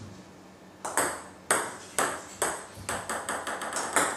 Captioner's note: ball ping pong hitting